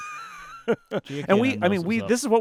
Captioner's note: laughing